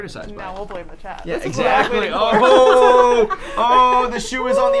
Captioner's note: people laughing